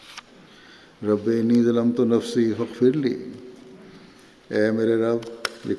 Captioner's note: Arabic